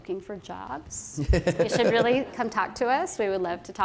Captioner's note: laughter